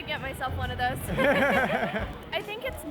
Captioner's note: both laughing